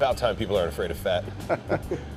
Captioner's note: laughs